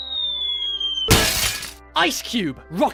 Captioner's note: bottle shatters